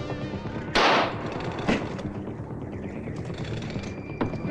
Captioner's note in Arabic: إطلاق نار